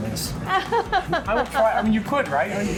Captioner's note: laughs